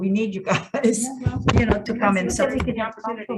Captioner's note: chuckles